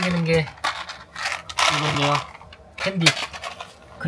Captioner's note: construction site ASMR